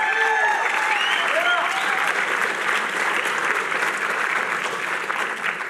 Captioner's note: cheering